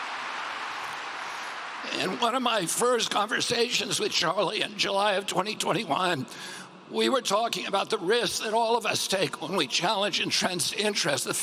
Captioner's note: cheering